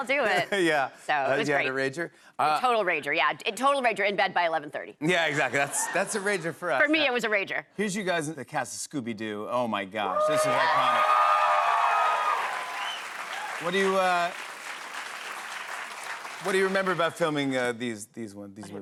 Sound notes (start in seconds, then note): 10.0 cheers and applause